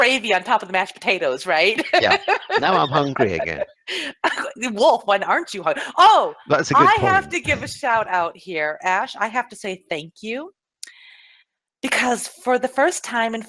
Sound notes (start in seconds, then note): 4.1 laughs